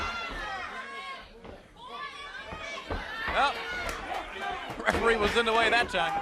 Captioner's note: crowd chatter